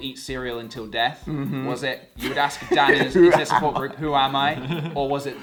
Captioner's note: laughing